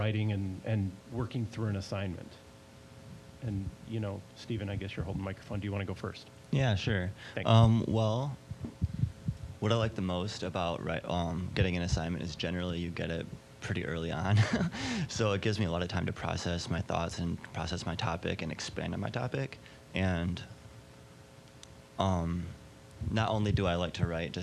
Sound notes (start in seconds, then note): 14.3 laughing